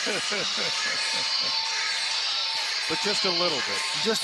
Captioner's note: laughter